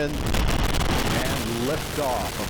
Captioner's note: roar of rocket engines